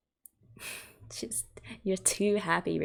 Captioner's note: chuckles